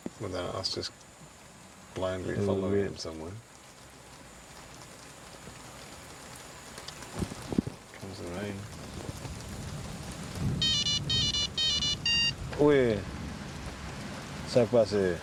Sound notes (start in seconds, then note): 4.2 rain falls; 8.6 thunder rumbles; 10.6 phone chimes